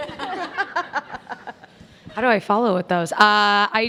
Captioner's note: all laugh